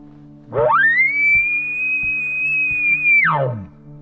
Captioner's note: caller bugling